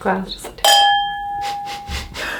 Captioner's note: glass chimes; both giggling